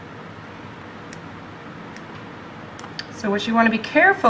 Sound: clipping

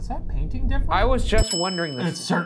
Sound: bell dinging

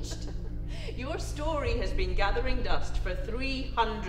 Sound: laughing

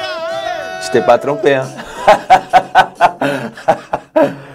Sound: he laughs

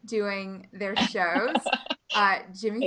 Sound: laughing

